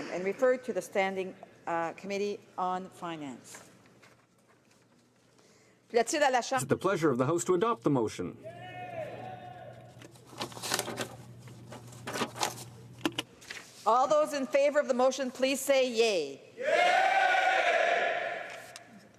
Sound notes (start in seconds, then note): 11.0 speaking french